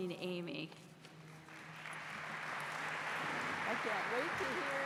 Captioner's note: applause